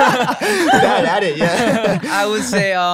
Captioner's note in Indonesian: tertawa